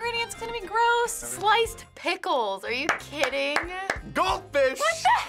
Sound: clapping

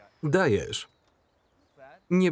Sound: birds chirping

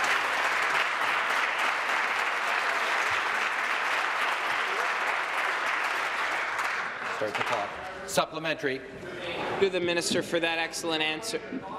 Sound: applause

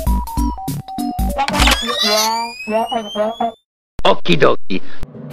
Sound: Inkling scream

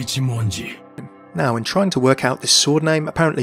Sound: voiceover

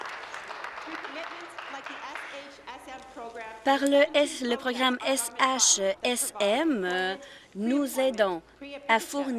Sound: applause

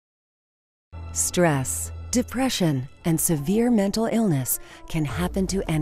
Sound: voiceover

